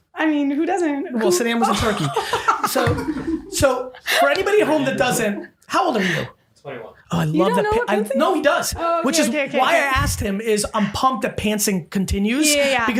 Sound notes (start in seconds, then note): 1.4 laughing